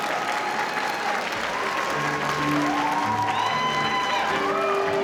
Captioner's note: audience applauding; audience cheering